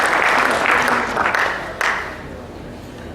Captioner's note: applause